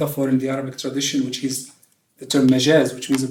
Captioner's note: non-english speech